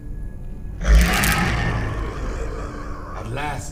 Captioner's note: growling